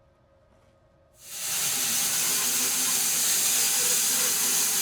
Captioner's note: saw whirring